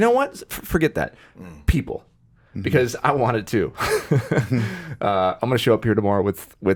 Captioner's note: laughs